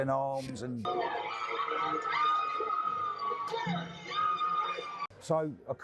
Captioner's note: woman screaming